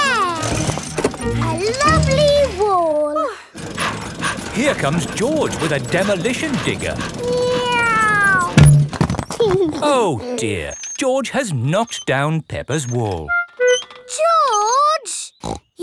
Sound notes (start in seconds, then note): 3.6 daddy pig panting; 7.4 george imitates airplane; 9.6 george giggles